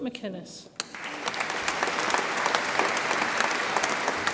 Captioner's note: audience applauds